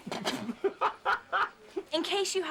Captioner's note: snickering